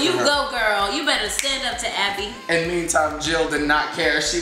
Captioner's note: feminine voice